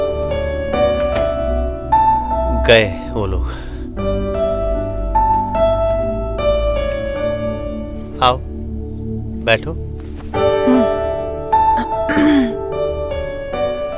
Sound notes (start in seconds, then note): 12.0 Clears throat